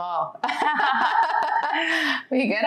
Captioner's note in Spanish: ambas riendo de buena gana